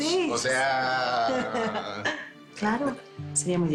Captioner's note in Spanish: Risas